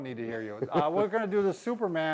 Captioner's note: laughing